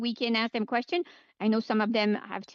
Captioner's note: speaking French